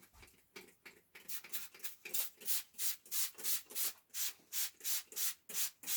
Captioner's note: spray bottle spritzing